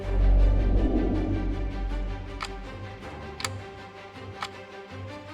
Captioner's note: clock ticking